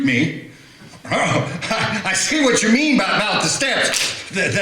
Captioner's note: cracking